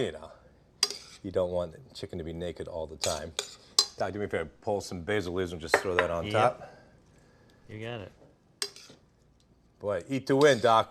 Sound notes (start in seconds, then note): none